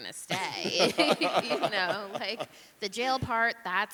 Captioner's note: laughing